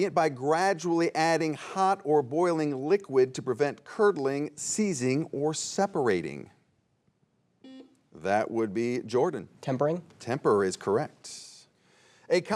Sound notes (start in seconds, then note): 6.9 buzzer beeps